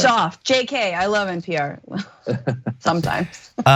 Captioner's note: laugh